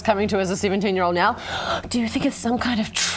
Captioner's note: gasp